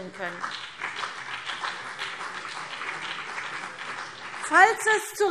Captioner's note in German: Beifall BÜNDNIS 90/DIE GRÜNEN und vereinzelt CDU